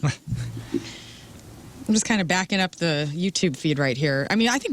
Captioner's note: laughing